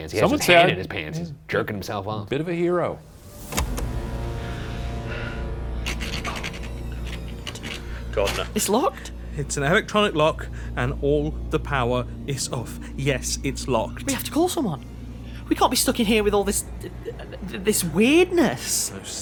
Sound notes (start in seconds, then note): 3.6 door handle rattling; 3.6 tense music